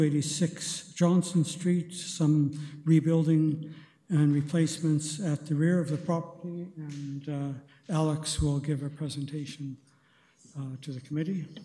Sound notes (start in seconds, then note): none